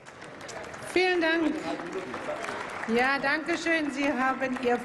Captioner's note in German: Applaus